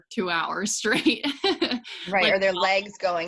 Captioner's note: laughs